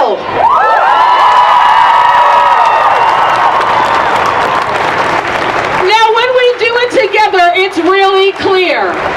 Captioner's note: applause